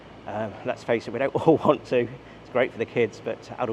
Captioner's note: laughs